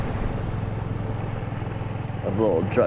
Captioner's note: air whooshing; dramatic synth music